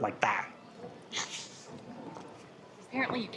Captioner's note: laughs